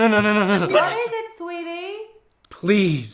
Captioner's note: female voice offscreen